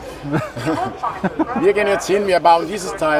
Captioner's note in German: lachen